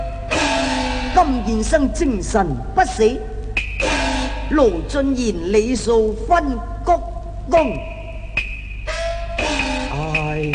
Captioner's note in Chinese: 小生唸白